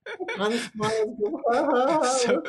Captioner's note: laughs